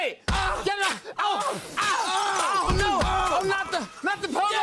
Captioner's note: both screaming